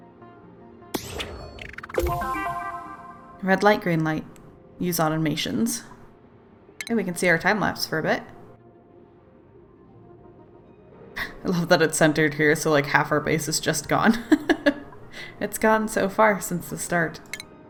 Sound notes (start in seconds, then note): 14.8 laughs